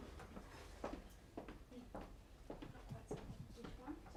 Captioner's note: whispering